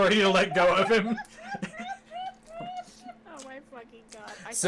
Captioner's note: the group crying in general